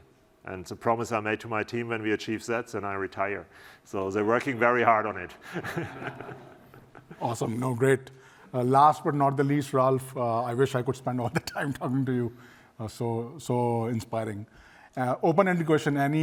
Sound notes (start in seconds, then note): 5.4 laughter